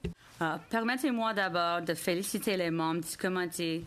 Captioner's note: speaking in French